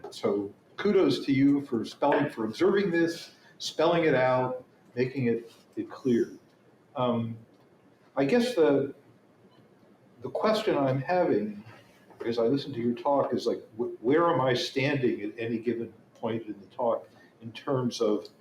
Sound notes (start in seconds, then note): none